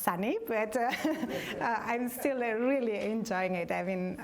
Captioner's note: laughter